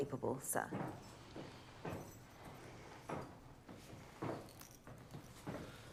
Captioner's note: footsteps approaching